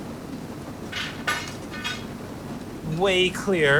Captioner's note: metal clanking